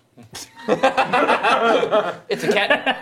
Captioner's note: laughing